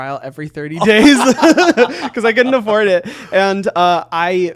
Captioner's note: both laughing